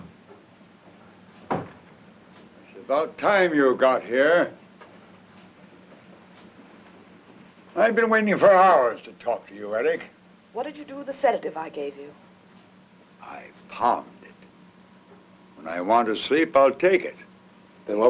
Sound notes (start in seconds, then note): 1.4 door closes